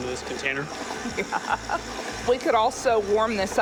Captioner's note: laughs